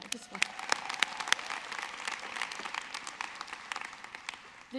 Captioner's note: clapping